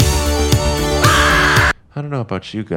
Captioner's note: screams